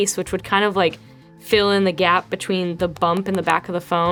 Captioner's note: finger tapping